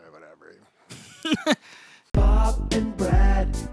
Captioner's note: laughs